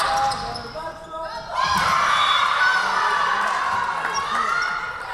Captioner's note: whistle blowing